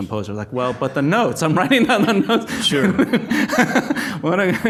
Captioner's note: laughs